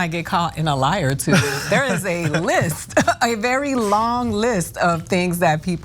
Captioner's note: laugh